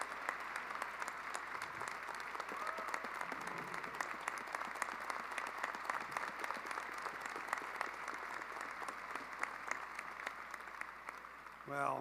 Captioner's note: applause